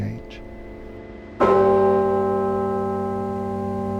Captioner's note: loud toll of bell striking 5 o'clock